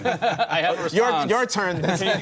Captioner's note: laughter